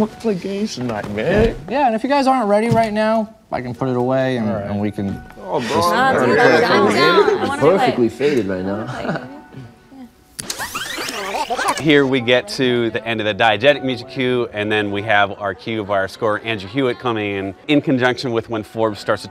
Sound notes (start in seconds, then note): 5.4 group chattering; 10.4 graphics warbling